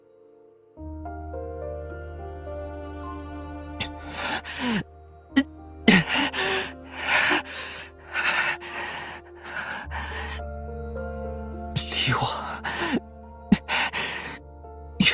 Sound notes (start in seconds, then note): 3.5 groan